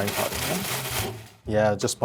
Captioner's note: processor whirring